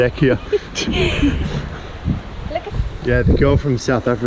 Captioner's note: laughs